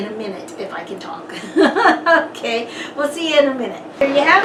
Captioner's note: laughs